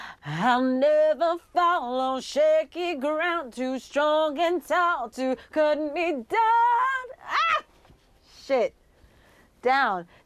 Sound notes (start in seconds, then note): 5.7 voice cracks